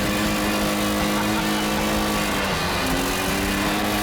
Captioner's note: laughs